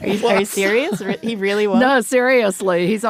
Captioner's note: laughs